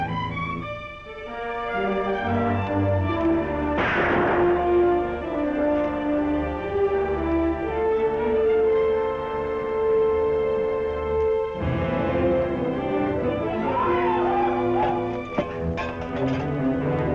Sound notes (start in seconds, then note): 3.7 gun Shots